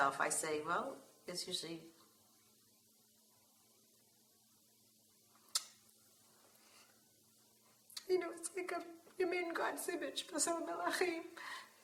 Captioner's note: Hebrew